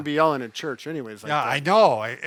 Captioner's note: laughs